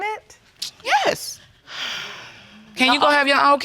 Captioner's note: sighs